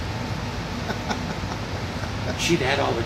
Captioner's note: laughing